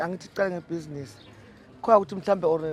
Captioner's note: birds chirping